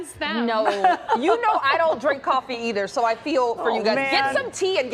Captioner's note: laughter